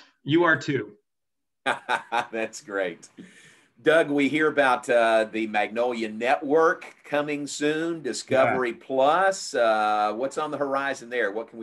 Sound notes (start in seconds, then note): 1.7 laughs